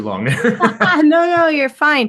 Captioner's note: laughs